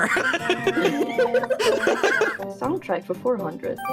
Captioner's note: all Laughing